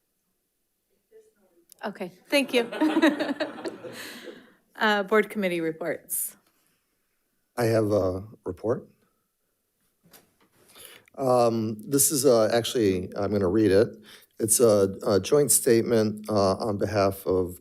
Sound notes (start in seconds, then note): 2.4 members laughs